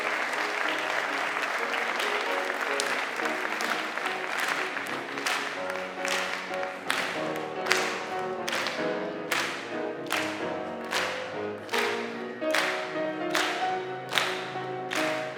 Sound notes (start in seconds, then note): 2.5 choir clapping; 2.5 gentle piano music